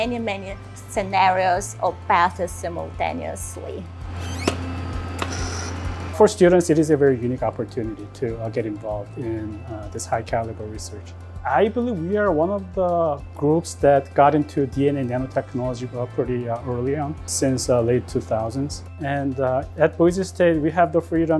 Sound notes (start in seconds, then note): 4.0 machine whirring